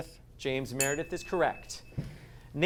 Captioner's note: ding sound